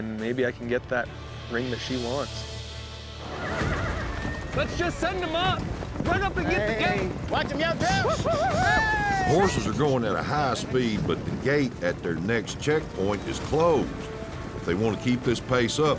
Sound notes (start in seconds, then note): 2.7 hoofbeats, horses neigh